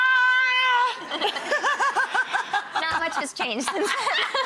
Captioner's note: laughing